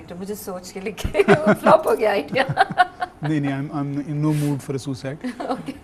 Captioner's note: chuckles